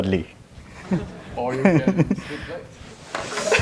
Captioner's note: laugh